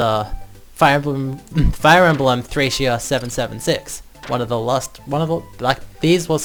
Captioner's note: stutters, clears throat